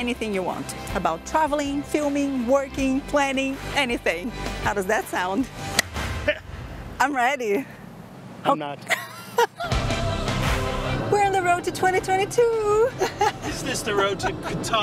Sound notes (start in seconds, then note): 8.8 laughs